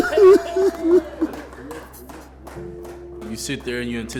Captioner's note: crying